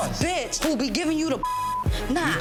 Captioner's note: beep